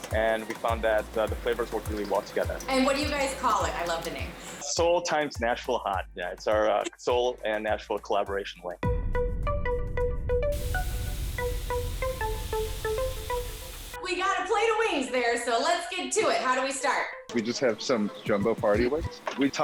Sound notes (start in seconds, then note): 10.5 chicken sizzling; 10.5 upbeat music